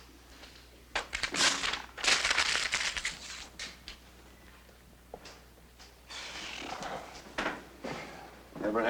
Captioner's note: sighs